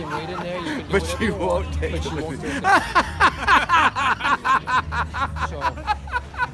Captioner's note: laughing